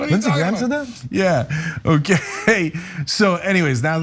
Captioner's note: laugh